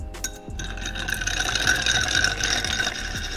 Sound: clanging; stirring

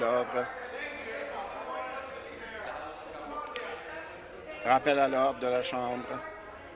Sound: conversation din

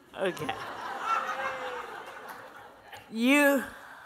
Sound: laughter

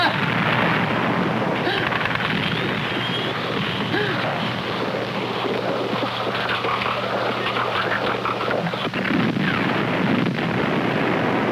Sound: explosion, machine gun firing

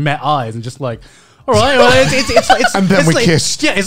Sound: laughing

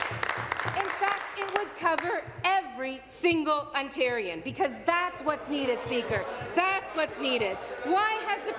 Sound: applause

